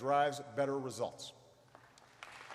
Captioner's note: applause